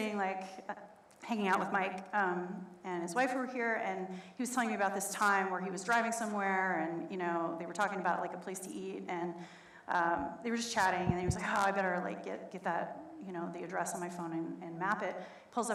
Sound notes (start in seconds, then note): none